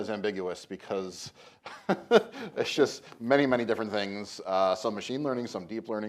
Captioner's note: laughs